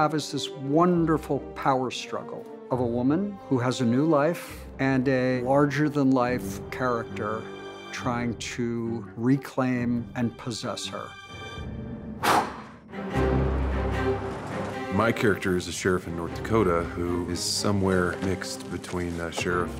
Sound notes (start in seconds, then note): 12.2 blowing